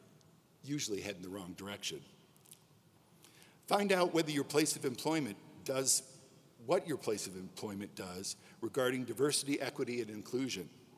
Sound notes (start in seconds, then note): none